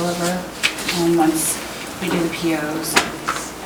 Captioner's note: softly mumbles